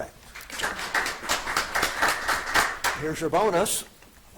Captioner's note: audience applauding